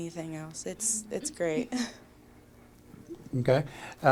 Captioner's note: chuckles